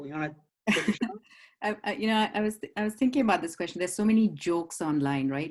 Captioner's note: laugh